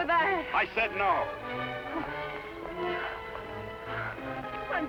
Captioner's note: panting